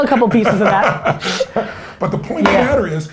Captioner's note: Tony laughs